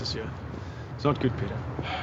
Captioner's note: sighs